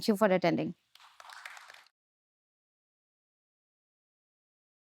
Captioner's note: audience applauding